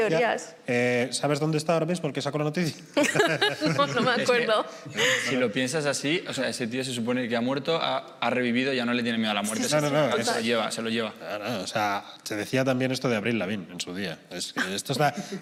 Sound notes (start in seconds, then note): 2.7 laughter